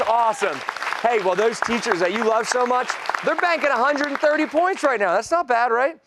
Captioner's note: applause